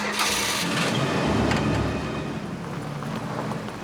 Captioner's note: engine revs